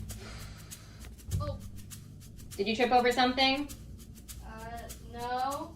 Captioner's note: thump